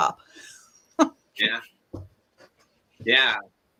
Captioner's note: laughs